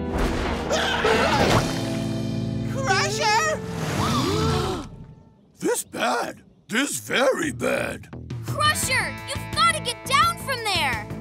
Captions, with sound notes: [screaming] Crusher! [gasping] This bad. This very bad. Crusher, you've got to get down from there!